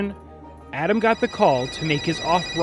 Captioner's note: phone ringing